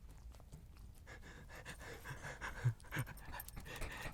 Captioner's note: soft crunching; Elvis panting